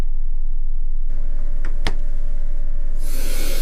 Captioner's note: hiss of escaping gas